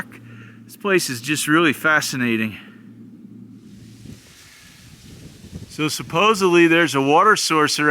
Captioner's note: cottonwoods rustling